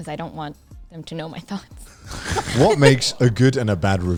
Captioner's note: laughs